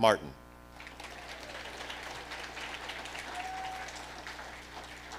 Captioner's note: audience applauding